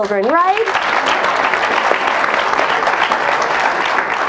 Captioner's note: audience applauds